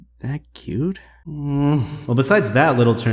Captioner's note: beta moan